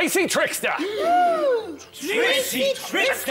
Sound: gasp!

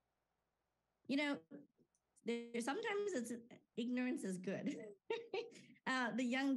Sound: laughing

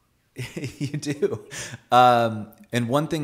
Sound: laughs

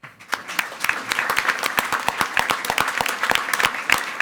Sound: everyone applauding

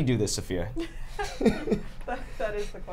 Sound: laughs

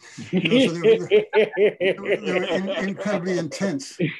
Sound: group laughing

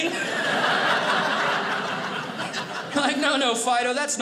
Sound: audience laughing

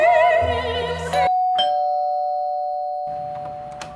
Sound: door bell rings

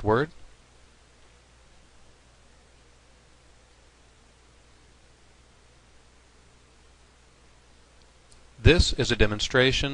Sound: pause

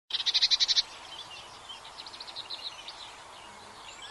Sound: birds tweeting

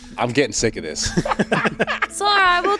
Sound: laughing

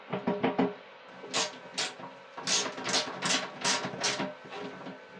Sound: wrench clicking

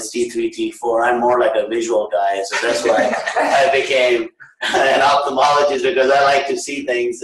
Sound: laughter

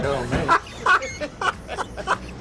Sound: laughs

